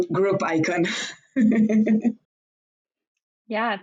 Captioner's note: laughs